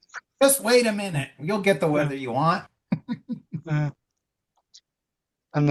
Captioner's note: laughs